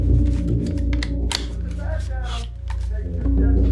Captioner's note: gun cocking